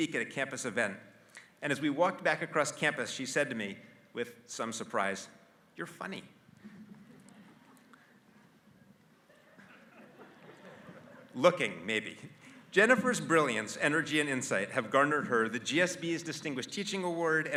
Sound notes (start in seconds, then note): 9.2 laugh